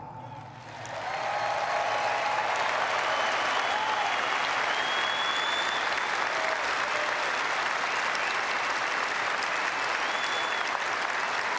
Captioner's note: applause